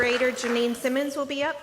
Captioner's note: applause